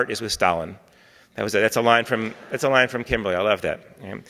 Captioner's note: audience laughing